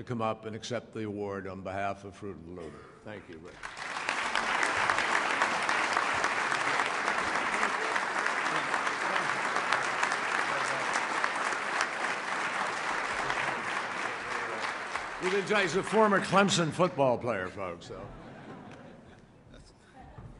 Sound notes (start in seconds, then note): 11.9 applause; 18.0 laughter